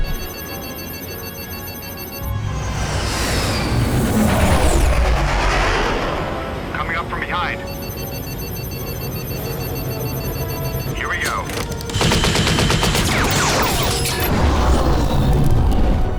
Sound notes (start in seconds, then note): 0.0 beeping; 6.8 beeping; 11.5 gunfire